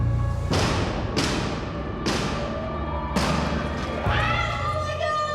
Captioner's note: banging on door